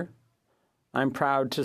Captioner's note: speaking French